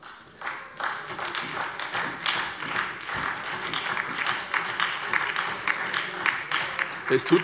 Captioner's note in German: Beifall bei der SPD und der LINKEN